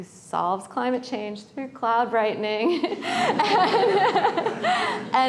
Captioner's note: laughter